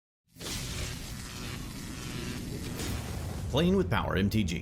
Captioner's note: electrical buzzing